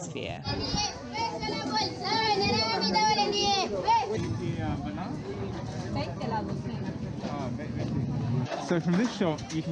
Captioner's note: sounds of the market